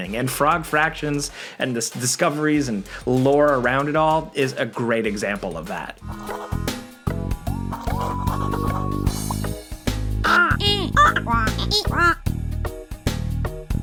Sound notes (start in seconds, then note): 6.0 mellow music; 6.2 pen scratching; 10.4 farmers chattering